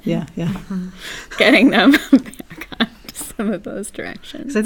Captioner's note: laugh